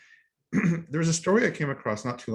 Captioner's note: clears throat